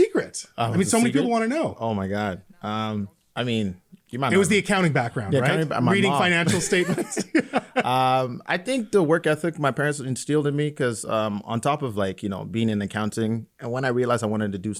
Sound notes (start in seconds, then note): 7.5 laughing